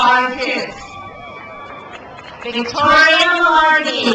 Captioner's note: crowd cheers